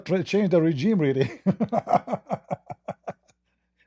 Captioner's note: Ketawa